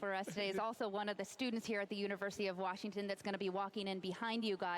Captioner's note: laughter